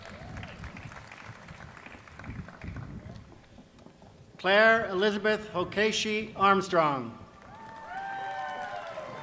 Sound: applause

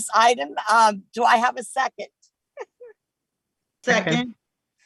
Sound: chuckles

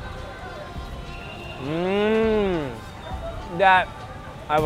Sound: groans

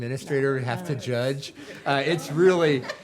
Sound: people laughing

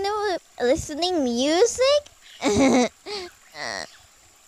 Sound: laughs

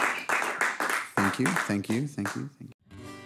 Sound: applause

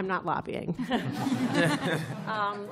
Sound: laughter

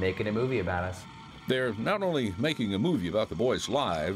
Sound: voiceover

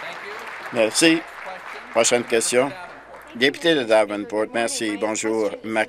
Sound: applause

